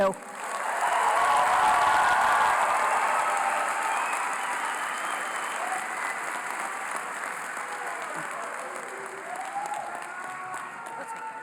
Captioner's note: applause